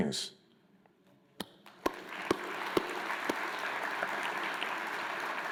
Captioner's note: crowd applauds